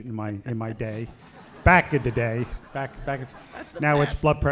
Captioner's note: laughter